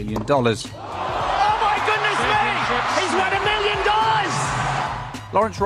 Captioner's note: crowd cheering